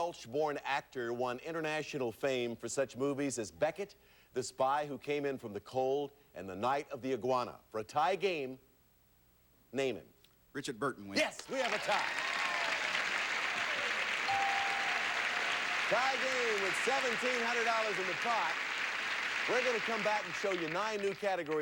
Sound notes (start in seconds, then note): 13.3 audience applauding